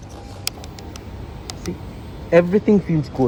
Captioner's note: clicks